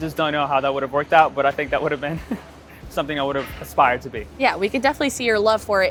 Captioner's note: chuckles